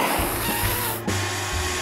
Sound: vacuum cleaner running

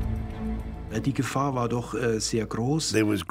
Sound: speaking German

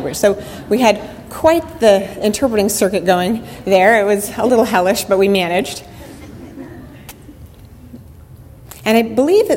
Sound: audience laughter

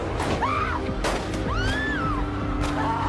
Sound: gun shot

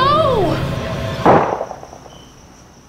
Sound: muffled gunshot

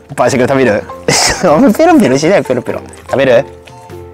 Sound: laughs

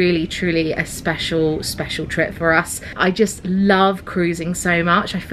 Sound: none

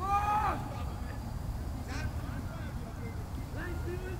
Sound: players yelling

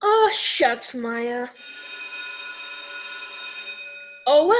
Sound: bell ringing

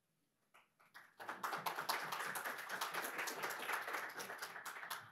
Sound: audience applauds

